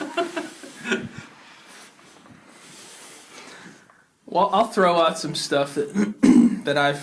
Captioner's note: laughs